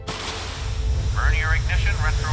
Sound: voiceover

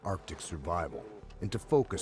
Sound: voiceover

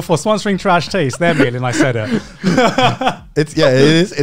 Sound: laughing

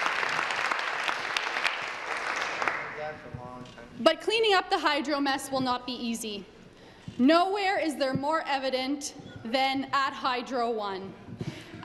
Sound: applause

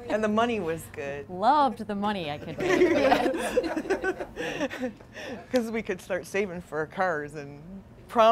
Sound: laughs

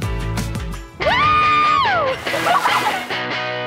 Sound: excited screaming

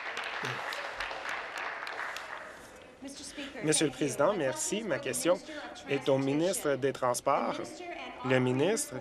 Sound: applause

